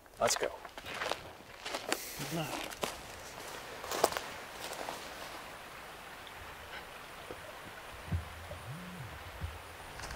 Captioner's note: walking